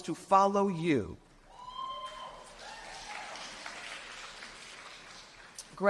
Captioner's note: cheers and applause